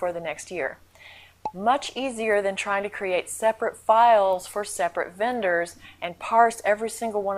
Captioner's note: pop